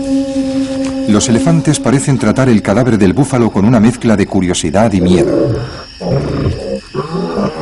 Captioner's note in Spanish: gemido